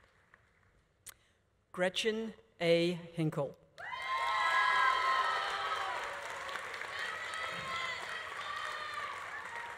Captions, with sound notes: Gretchen A. Hinkle. (audience applauding) (audience cheering)